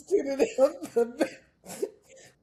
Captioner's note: laughing